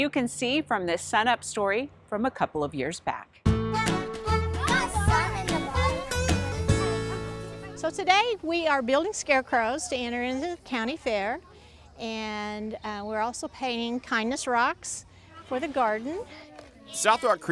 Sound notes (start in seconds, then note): 3.4 country music; 4.2 kids talking